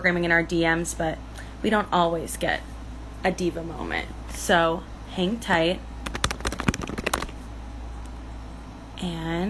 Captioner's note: typing noises